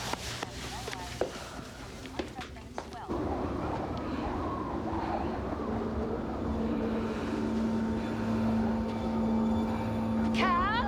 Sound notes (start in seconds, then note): 3.0 wind howling